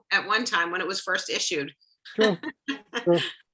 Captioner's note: laughs